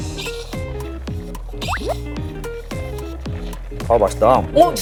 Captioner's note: gulp